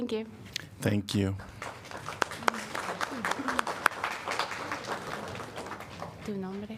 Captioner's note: applause